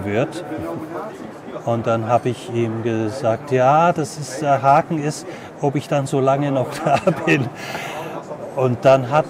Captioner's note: he laughs